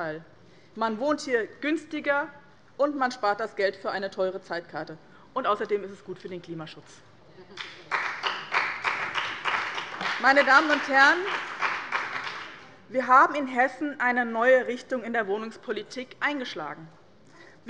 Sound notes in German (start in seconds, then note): 7.5 Beifall bei dem BÜNDNIS 90/DIE GRÜNEN und der CDU